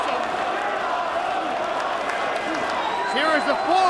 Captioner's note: crowd chattering